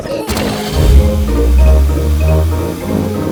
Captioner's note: laughing; car engine starts